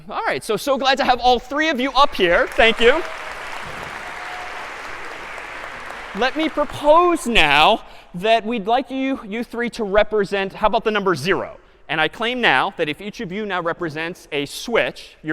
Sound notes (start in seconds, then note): 2.0 applause